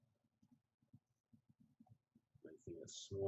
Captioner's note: pause